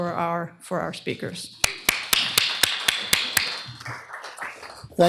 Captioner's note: applause